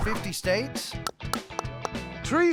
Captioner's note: tapping